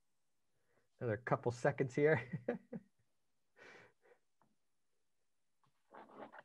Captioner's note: chuckles